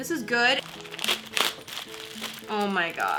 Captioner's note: rips open bag